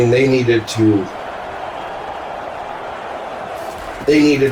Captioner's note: crowd Noises